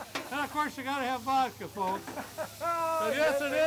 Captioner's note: laughs